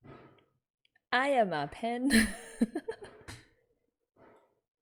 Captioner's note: laughs